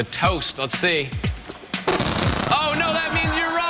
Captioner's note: fart sounds